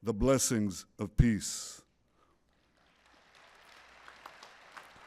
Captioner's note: applause